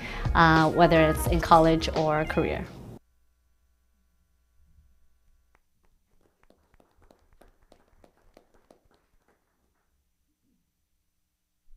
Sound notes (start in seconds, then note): 5.8 all applauding